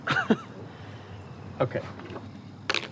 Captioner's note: laughs